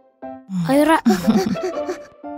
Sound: laughing

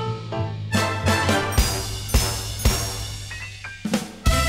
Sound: ding, ding, ding

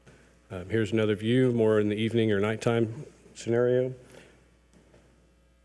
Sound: none

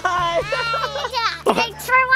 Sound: laughing

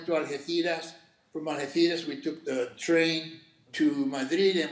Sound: speaking Spanish

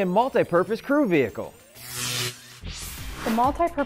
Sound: sound Effects

